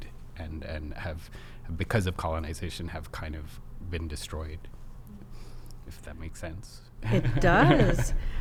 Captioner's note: laughs